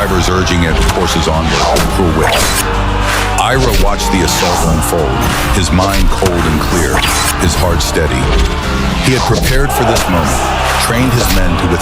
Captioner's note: shouting